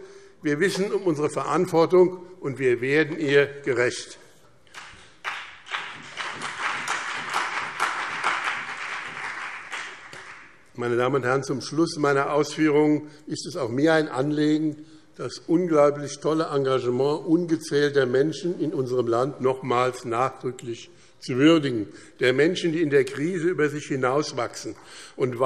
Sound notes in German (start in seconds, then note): 4.7 Beifall BÜNDNIS 90/DIE GRÜNEN und CDU